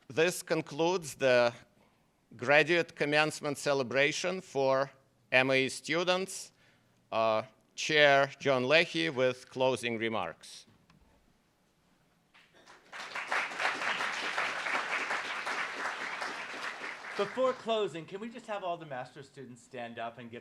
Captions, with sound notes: - This concludes the graduate commencement celebration for MAE students. Chair John Leahy with closing remarks. (applauds) - Before closing, can we just have all the master students stand up,